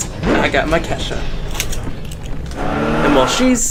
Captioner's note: tire Screech